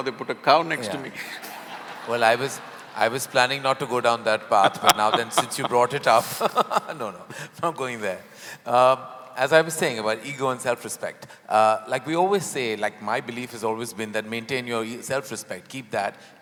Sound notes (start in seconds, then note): 0.8 laughter; 3.3 Sadhguru laughs; 6.7 laughs